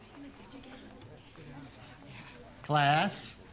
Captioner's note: indistinct background chatter